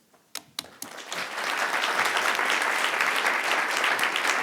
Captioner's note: audience clapping